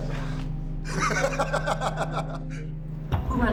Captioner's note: laughing